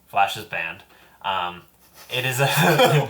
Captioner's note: all laugh